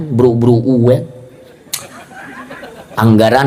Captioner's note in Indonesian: tertawa